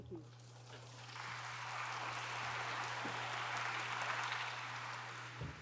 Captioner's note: audience applauds